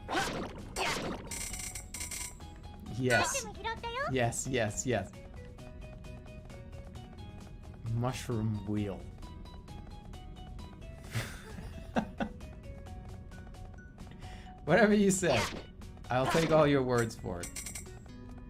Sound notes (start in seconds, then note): 11.1 chuckling